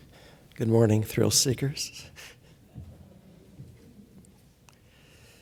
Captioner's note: chuckling